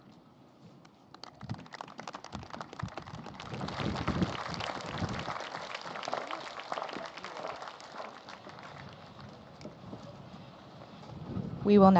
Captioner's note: applause